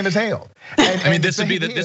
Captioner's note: laugh